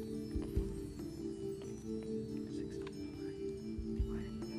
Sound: whispering

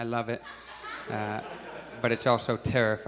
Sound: audience chuckles

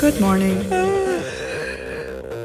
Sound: yawns

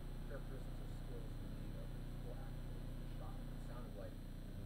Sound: speaking softly

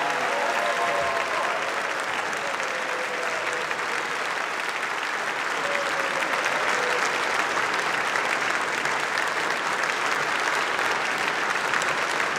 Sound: applause; cheering

